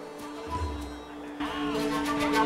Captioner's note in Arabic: هتاف